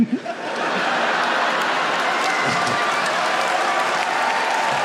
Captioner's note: audience cheering